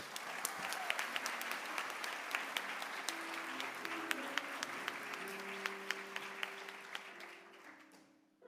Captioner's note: applause